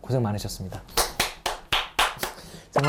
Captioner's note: applause